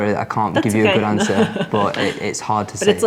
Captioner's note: laughs